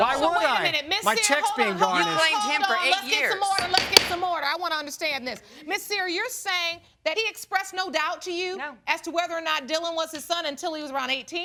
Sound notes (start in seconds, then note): 0.0 both arguing; 3.5 pounds gavel